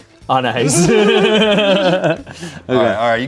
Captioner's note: laugh